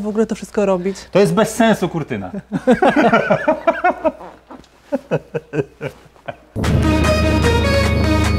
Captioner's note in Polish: śmiech